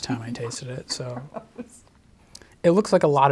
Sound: laughs

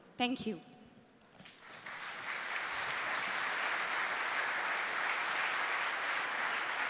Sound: applause

